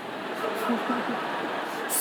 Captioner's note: laughter